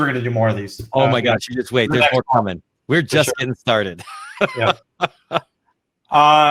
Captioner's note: laughs